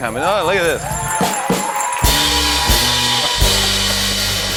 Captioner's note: cheers and applause